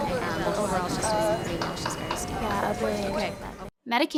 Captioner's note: television noise